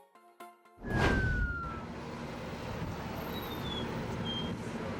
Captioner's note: fire truck wailing